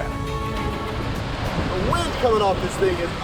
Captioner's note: water rushing